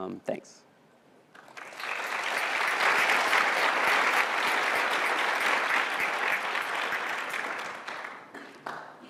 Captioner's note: applause